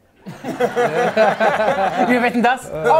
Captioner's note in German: Lachen